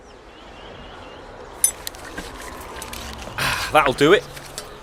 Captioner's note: clanking noises